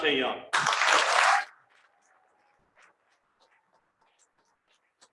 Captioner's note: cheering and applause